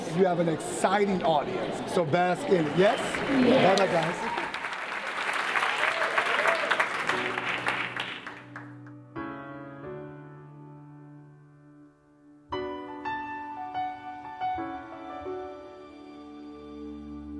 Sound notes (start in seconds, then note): 4.3 audience applauding; 9.2 uplifting music